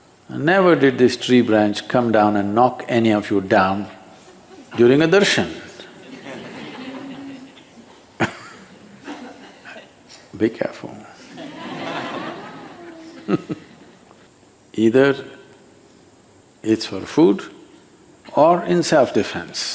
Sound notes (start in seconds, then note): 7.9 few laugh; 11.2 laughter